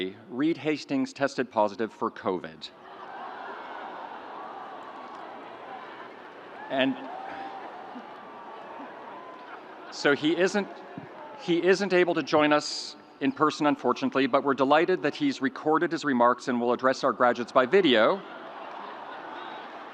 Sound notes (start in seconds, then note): 3.0 students chattering and gasping